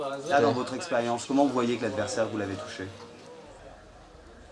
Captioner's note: French spoken audio